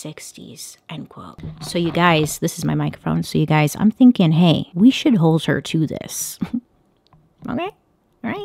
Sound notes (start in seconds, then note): 6.4 chuckle